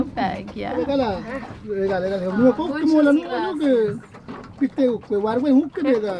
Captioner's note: speaking in foreign language